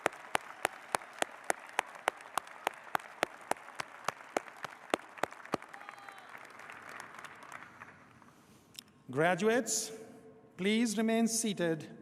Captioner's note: applause